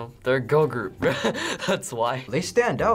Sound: laughing

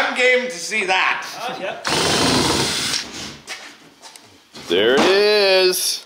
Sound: tool drilling

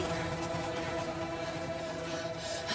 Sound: both gasping

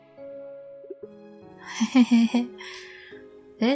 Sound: giggle

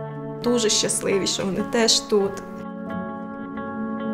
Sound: speaking Ukrainian

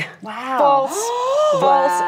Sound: gasps

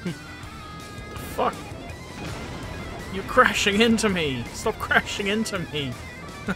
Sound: laughter; laughter

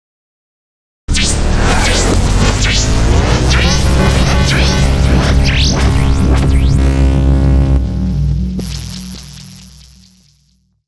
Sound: sound of science fiction

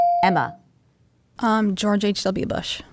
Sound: dinging

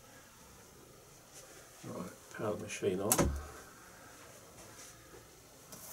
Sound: clunk

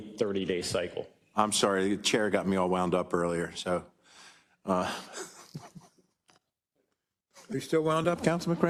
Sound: laugh

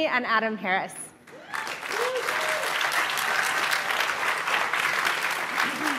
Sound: audience applauding

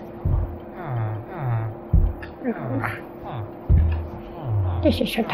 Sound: villager noises

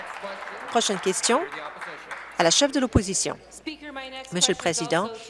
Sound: applause

